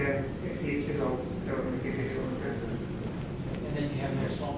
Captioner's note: speaks faintly